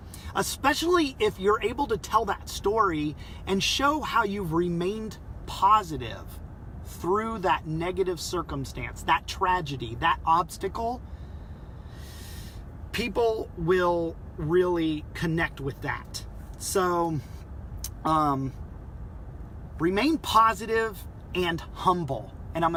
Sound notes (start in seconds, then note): 11.0 deep breath